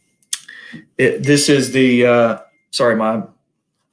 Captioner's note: cell phone chimes